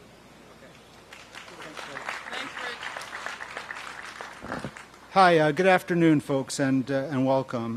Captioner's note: applause